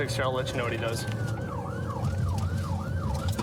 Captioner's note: siren blaring